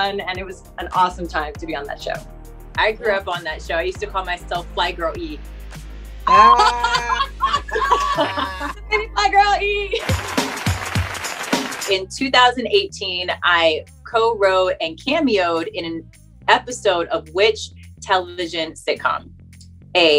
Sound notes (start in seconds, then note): 6.2 women laugh; 9.9 hip hop music